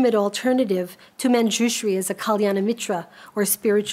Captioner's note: speaks a foreign language